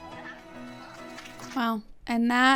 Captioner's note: serene music; show contestants clapping